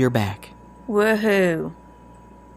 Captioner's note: dryly sarcastic